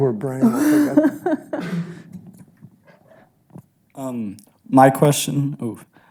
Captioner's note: laughs